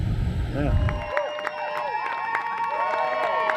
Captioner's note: cheering